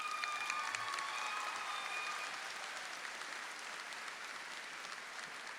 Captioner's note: audience clapping and cheering